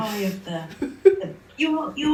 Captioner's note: laugh